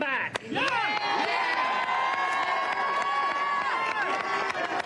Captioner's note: audience reacts